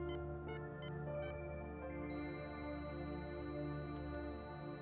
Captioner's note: alarm system beeping